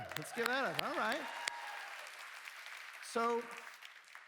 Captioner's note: cheers